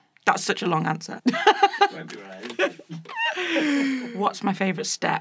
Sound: laughs

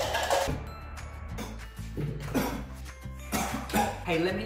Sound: coughing

